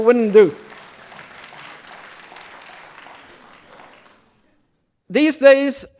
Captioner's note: audience applause